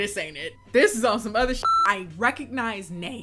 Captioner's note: beeps